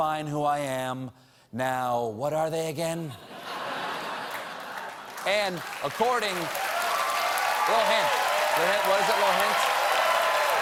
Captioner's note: cheers and applause